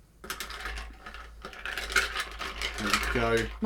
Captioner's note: ice clinking